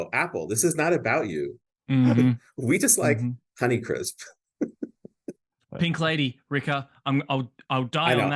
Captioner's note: laughs